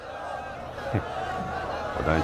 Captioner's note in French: Rires